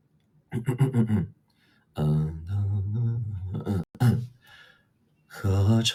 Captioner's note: clears throat; humming